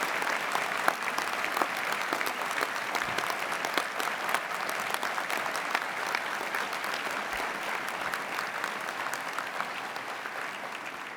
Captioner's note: applause